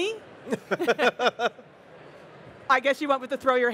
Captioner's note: panel members laugh